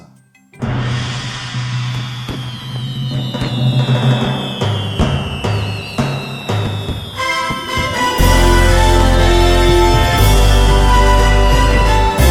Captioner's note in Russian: салют и музыка